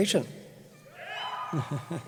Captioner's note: cheering; laughs; voiceover